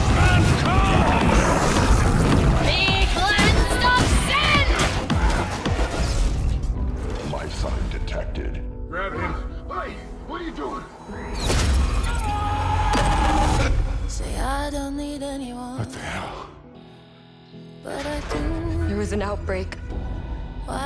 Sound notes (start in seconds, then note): 0.2 all grunting; 6.4 soft music; 11.9 screaming